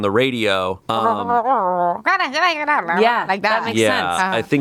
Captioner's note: grumbles